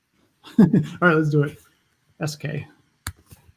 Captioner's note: laughs